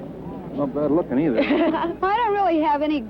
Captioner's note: laughter